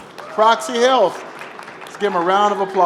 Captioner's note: applause